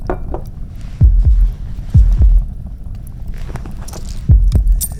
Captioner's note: heartbeat